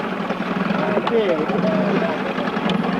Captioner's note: non-english speech